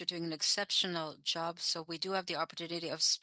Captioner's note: speaking in French